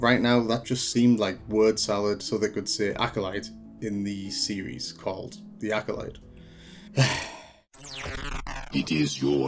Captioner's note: sigh